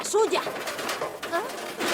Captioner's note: clatters